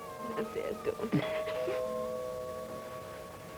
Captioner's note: doorbell